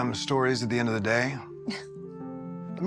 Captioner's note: laughs